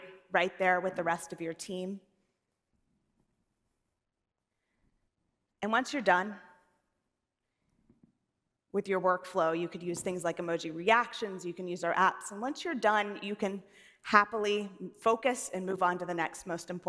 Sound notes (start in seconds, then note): none